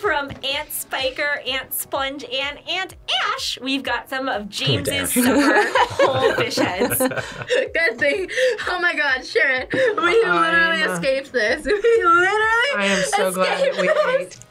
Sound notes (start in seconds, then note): 4.9 both laugh